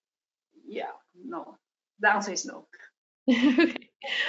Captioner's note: laugh